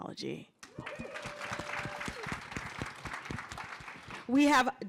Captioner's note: cheering and applause